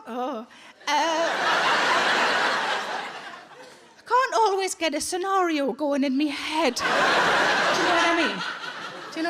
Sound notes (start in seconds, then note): 0.0 Sarah moans; 0.9 audience laughs